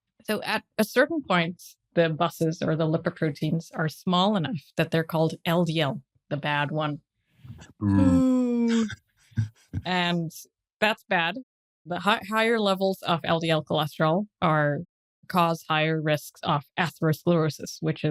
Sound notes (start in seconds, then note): 7.8 they boo